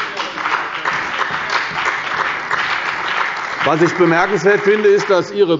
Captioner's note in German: Beifall bei der CDU